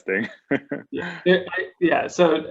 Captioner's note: chuckles